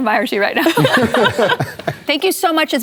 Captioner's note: laughter